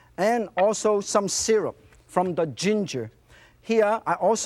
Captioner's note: none